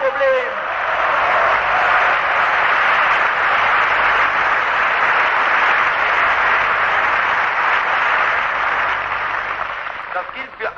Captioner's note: applause